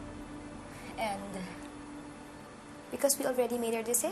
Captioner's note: voice shaking slightly